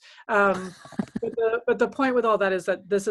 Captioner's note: laughter